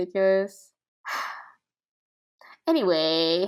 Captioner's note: sighs